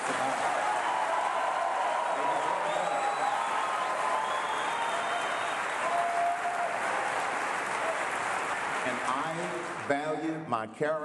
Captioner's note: cheering and applause